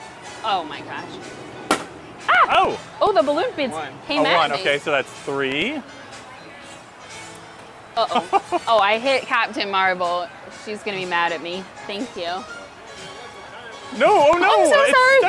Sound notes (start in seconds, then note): 1.7 balloon popping; 2.3 shrieking; 8.0 laughing